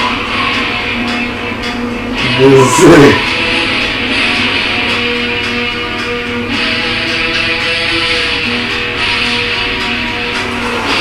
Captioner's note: upbeat music; laughing